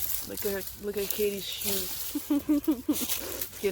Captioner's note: laughter